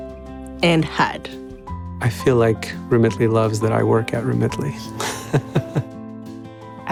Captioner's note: chuckles